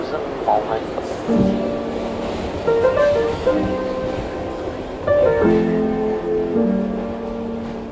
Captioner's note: train rattling; pensive piano music